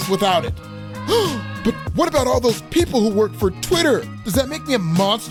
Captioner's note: gasp